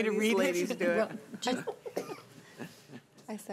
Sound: laughing

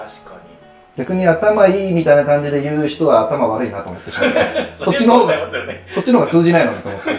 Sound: laughing

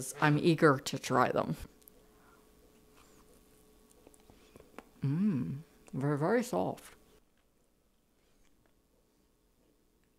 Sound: chewing cookies

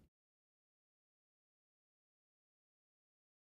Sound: silence

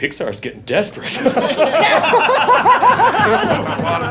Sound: laughing

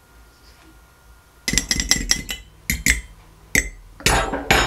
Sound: spoon clinking

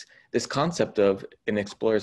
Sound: none

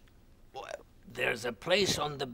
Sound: swallows

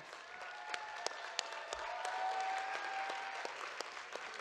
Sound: audience cheers and claps

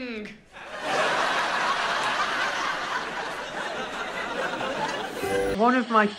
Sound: laughs

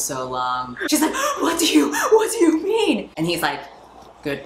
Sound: sobbing; panting

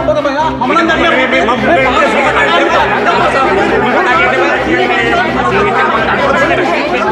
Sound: loud arguing like a fish market

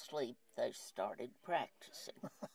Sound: chuckles

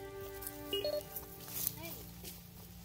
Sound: device chirping

